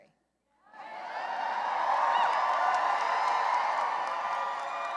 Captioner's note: cheering and applause